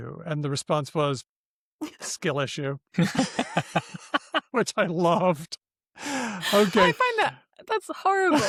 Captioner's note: laughter